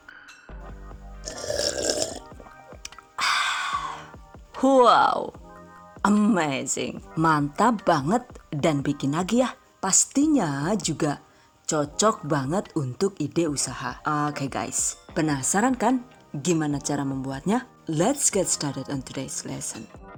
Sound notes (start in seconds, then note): 1.2 SFX: Sluruup